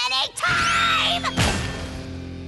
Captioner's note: crash